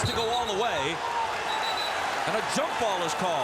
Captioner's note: whistle blows